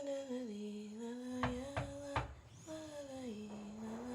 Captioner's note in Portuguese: batida na porta